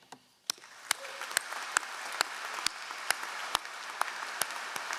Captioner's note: all applauding